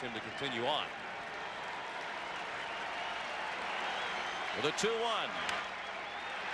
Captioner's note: applause